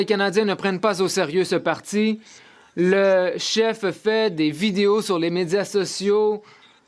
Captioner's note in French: voix de l'interprète